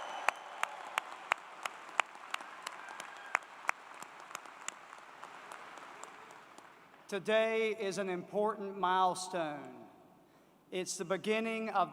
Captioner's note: cheers and Applause